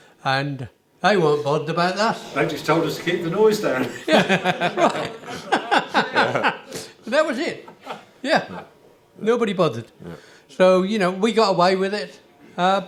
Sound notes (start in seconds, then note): 3.7 laughter